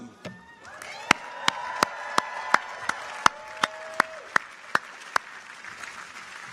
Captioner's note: people cheer; audience applauds